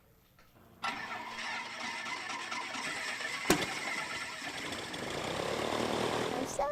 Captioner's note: plane engine runs